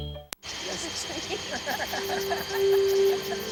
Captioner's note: laughter